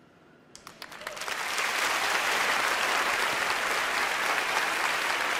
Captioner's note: applause